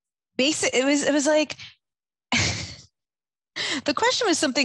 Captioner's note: chuckles